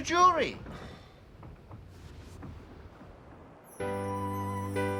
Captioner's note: sigh